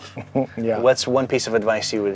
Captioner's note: chuckles